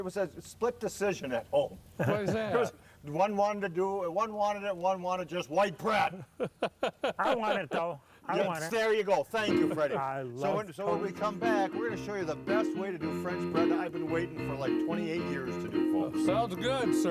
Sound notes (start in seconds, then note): 6.1 laughter; 10.4 upbeat music plays